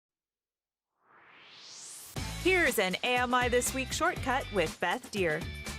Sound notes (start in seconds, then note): 0.9 swoosh